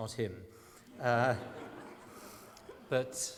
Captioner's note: laughter